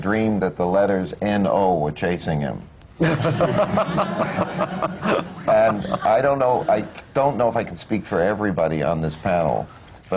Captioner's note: laughter